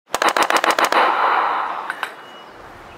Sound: sound of Bullets

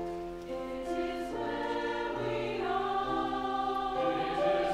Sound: high voices

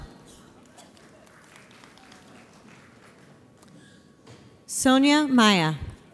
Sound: audience applauds

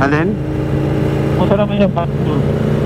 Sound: distorted audio

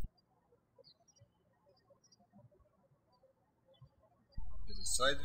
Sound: birds chirping

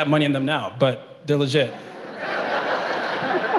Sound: laughing

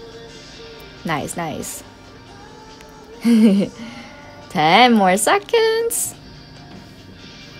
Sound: laughs

